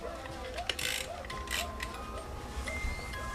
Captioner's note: toy cranking; music box music